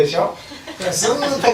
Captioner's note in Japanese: 笑い声